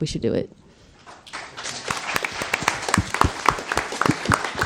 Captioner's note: audience applauds